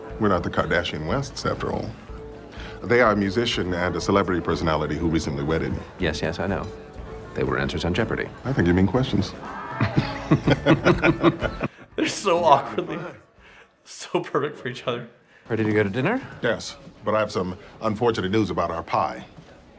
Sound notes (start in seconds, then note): 9.6 both laugh; 13.4 laughs